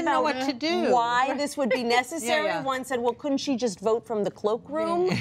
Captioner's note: laughs